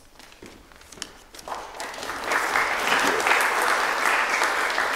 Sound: applause

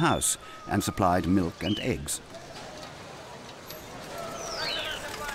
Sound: birds chirping

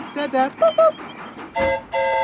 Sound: mimics train whistle; train whistle toots

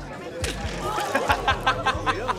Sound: people gasping; laughing

